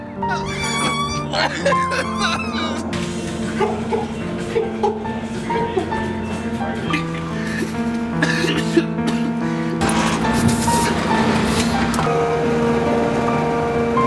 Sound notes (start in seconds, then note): 0.1 fluctuatingly Caterwauling; 2.9 ingurgitating; 7.1 profusely Salivating